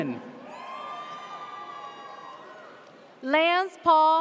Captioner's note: audience cheers